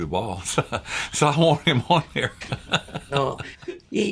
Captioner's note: laughs